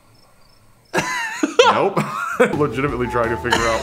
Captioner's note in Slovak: smiech